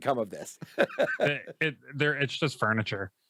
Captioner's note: laughs